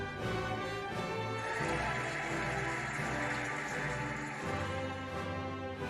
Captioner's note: cheering and applauding